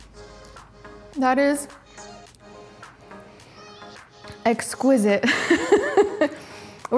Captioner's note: laughs